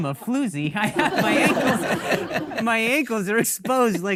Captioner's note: audience laughing